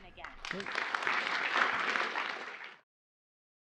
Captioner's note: applause